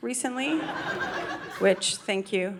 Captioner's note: audience laughing